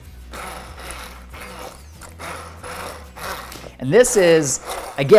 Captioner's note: blender whirring